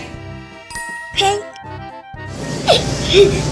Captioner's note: magical ting; Googoo Gaga laughing